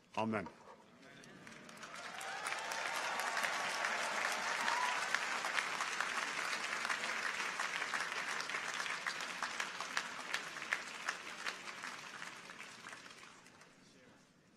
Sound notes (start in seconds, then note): 3.0 audience applauds; 3.0 people cheer